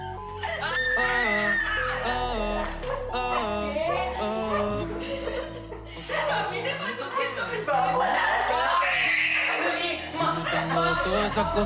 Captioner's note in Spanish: risas